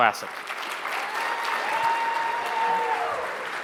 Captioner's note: audience applauds